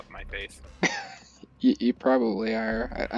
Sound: laughs

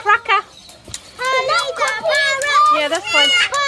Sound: kids in the background

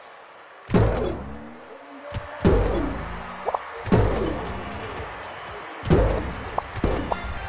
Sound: jump sound

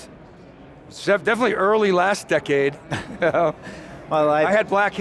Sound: chuckles

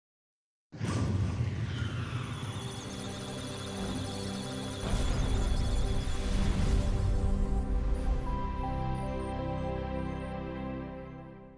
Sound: electronic sounds of data

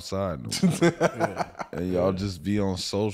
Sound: laughs

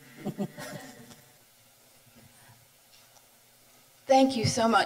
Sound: chuckles softly

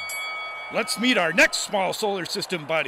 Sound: bell rings

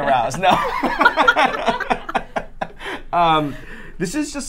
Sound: all laughing

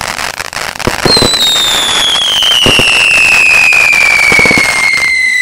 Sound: fireworks whistling

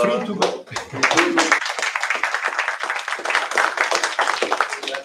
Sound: applause

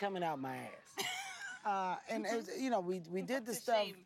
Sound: laughing

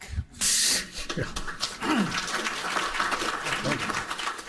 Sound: applauding

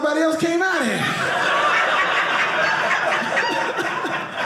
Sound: audience laughing

